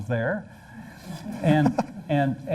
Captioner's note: laughter